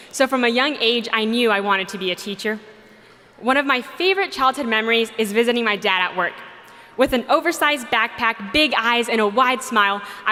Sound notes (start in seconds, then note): none